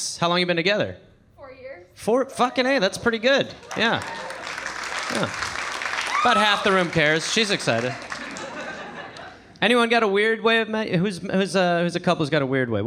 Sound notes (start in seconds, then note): 3.4 audience applauding; 8.1 audience laughing